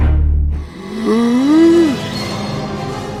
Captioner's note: long gasp